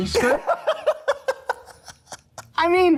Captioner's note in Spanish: risas